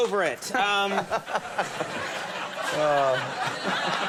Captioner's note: Justin laughing